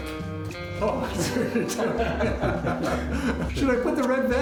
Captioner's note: laughing